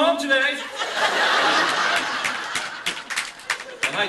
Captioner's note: laughter